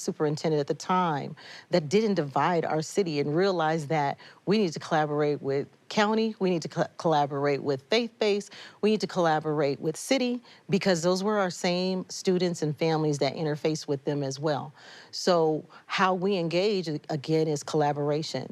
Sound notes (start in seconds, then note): none